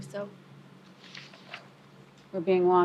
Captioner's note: papers flips